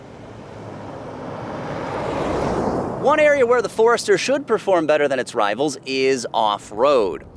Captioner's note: car driving